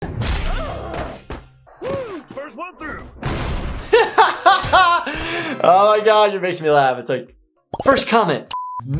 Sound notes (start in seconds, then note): 0.0 blow landing, man grunting; 3.1 doors slamming; 3.9 laughing